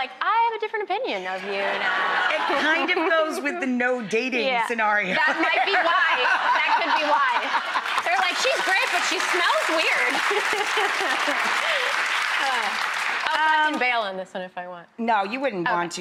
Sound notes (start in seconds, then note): 10.0 audience laughing and clapping